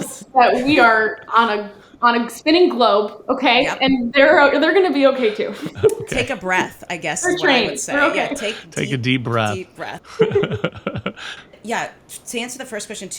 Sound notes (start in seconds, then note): 5.6 laughs; 10.0 laugh